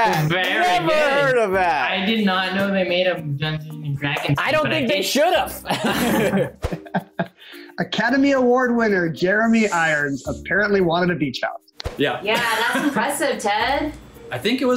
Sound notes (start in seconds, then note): 5.6 laughs